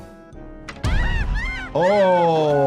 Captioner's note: ants screaming